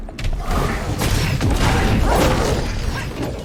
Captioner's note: gun blasting; bombs exploding; Enki roaring